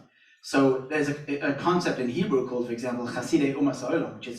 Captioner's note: Hebrew